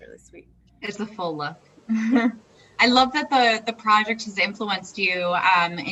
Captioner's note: laughs